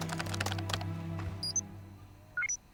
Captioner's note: keyboard key clacking